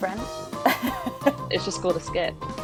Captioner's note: laughs